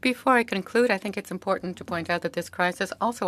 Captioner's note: speaking French